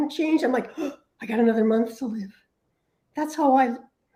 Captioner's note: gasps